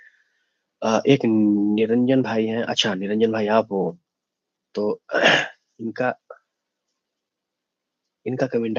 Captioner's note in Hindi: गला साफ़ करने की आवाज़